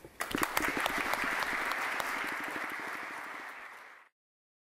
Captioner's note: applause